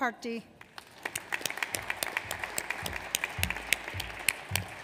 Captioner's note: audience applauds